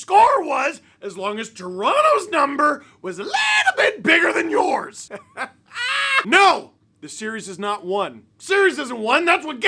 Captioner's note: laughter